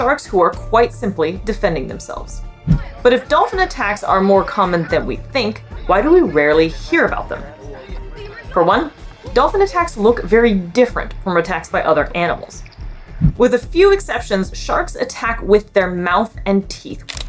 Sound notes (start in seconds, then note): 7.6 background chatter in clip